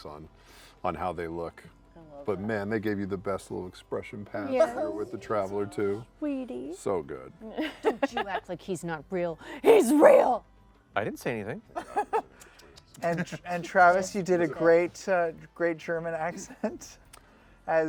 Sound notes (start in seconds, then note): 11.8 laughs